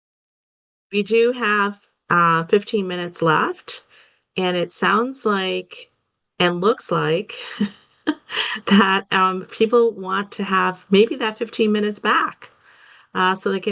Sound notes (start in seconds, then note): 7.3 chuckles